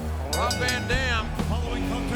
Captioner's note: bell rings